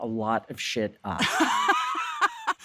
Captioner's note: laughs